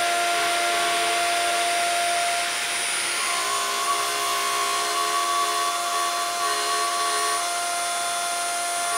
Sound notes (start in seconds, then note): 3.6 machine whirring